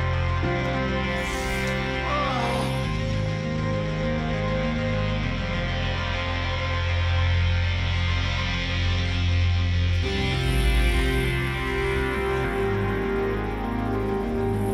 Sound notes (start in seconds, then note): 1.2 groaning